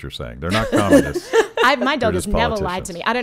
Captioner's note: laughing